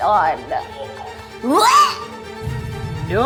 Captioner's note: imitating vomiting